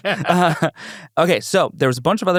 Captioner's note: laughs